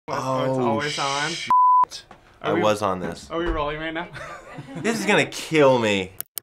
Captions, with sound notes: - Oh shit. I was on this. - Are we rolling right now? (laughs) This is gonna kill me.